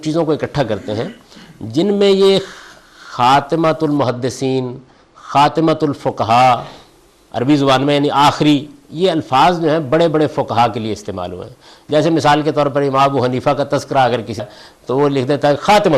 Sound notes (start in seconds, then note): 8.2 in Arabic